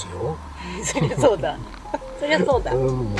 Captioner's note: laughs